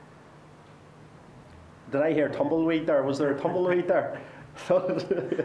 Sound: laughter

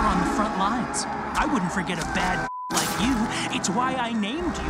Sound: beep

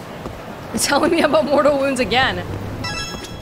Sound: chuckles

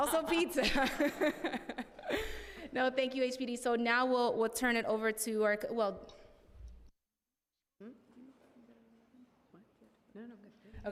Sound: laughter

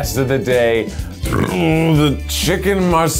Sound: burps

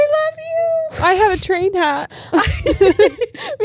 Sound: both laughing

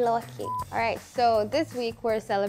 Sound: beeping

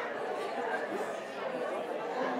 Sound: audience chatter

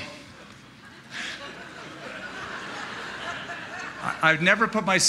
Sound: laughter

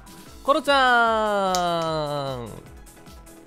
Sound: weak ass claps

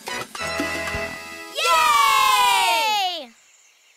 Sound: animal band playing; cheering

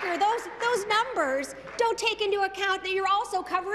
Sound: applause

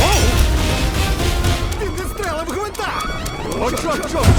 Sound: alarm blaring; man screams

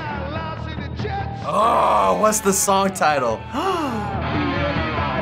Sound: gasping

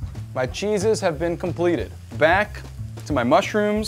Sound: none

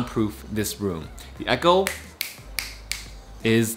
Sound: fingers clicking

